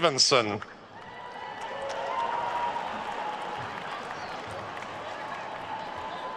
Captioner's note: attendees cheering and applauding